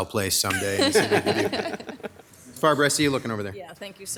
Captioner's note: laughing